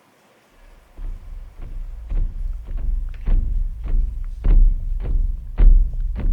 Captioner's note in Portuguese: Sons de marcha